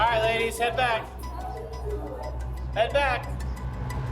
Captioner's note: inmates chatting